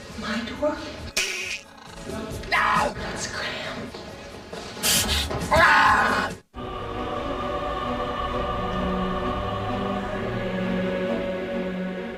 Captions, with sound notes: - My door? (clicking tongue) Let's scram! (screaming) (dramatic orchestral music) (singing in foreign language)